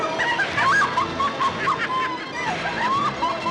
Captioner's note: cackling